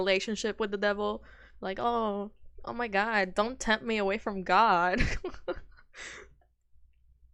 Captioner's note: laughs